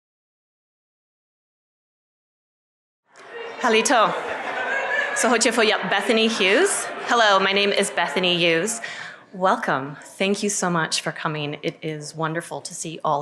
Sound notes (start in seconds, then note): 5.7 speaking Chochtaw